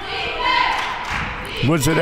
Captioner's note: claps